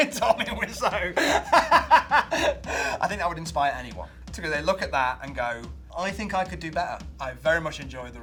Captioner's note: laughs